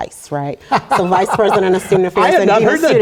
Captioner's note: laugh